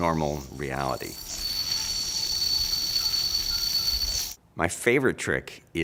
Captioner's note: yo-yo spinning metallically